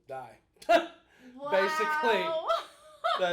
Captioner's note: both laughing